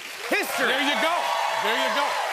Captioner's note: cheers and applause